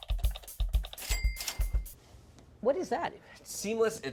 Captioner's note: clicking and dinging